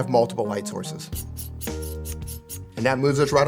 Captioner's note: tripod squeaks; playful music